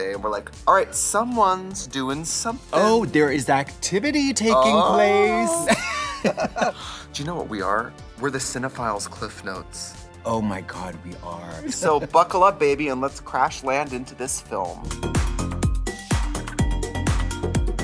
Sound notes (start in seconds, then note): 5.6 laughter; 15.1 upbeat music